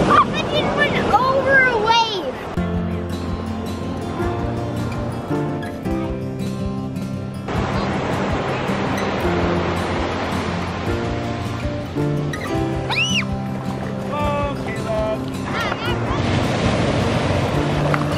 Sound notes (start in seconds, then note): 2.8 soft acoustic music; 12.8 children scream; 16.5 waves crash